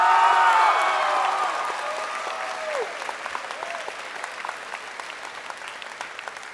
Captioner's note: crowd applauding and cheering